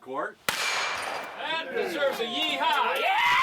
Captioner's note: gun shot; cheers